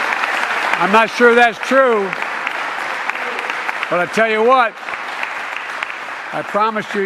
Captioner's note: applause